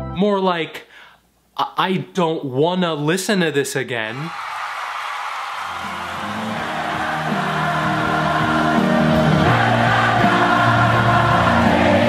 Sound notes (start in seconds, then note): 4.1 crowd cheers